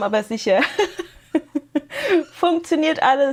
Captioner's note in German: gelächter